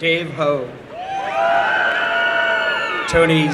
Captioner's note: applause and cheering